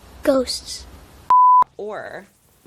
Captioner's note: beep